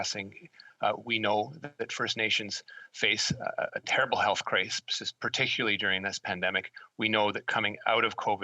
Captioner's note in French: voix de l'interprète